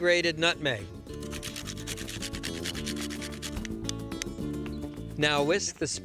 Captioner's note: grating